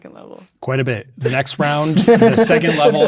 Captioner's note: players laughing